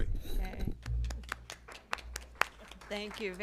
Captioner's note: applause